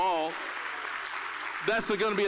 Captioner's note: applause